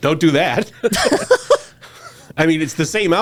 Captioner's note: both laughing